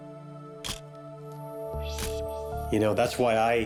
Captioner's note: camera shutter click